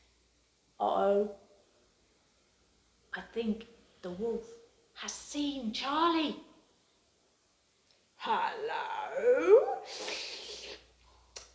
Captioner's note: licks lips